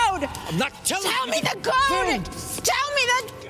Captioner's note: shouting